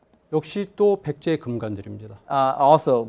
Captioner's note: speaking in Korean